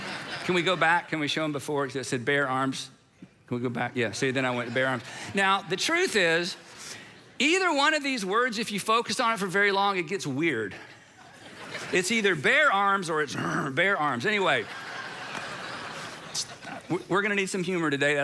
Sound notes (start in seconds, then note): 13.2 growls